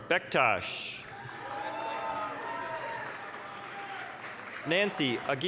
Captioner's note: applause, cheering